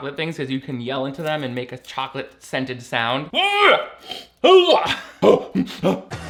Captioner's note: yells